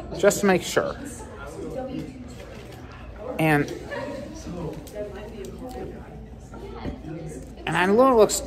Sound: students chattering

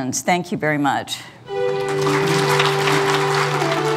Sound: applause

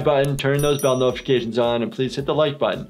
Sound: bell rings

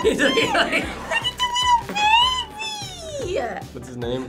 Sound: laughs; squeaking

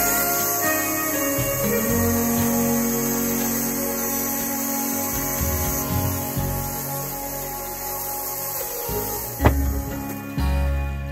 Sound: electric chainsaw sound

